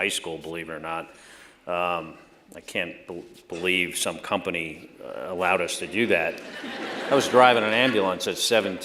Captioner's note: laughter